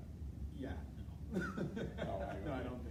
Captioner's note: laughs